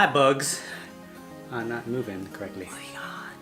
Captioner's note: whispers